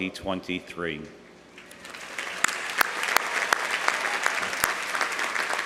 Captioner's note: audience applauding